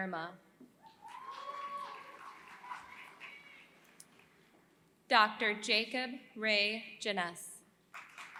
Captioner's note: applause